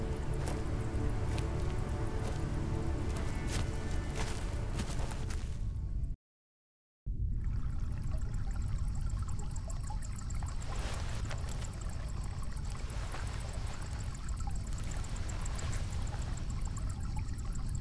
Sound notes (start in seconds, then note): 7.3 water trickles; 8.0 insects chirp